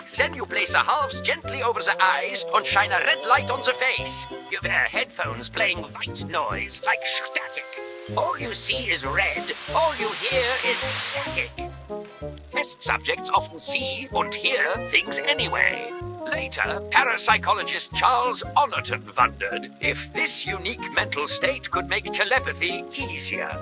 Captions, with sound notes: Then you place the halves gently over ze eyes and shine a red light on the face. You wear headphones playing white noise like static. All you see is red. All you hear is static. (Static overtakes audio) Test subjects often see und hear things anyway. Test subjects often see und hear things anyway. (High pitched singing) Later, parapsychologist Charles Honorton wondered if this unique mental state could make telepathy easier.